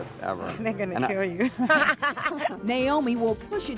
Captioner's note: laughing